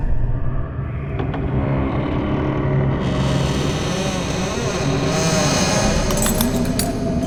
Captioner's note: door Creaking Open